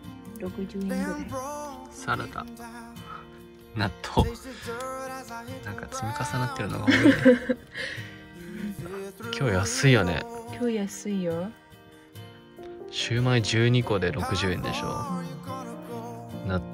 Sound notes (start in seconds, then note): 6.8 haha